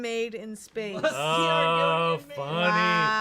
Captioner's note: laughs